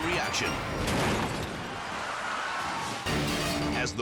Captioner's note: car crashing